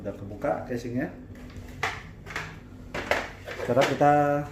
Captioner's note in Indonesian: suara casing ditaruh